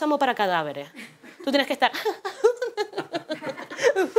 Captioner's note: laughs